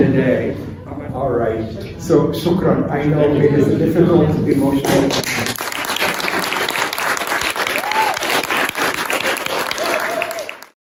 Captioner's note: applause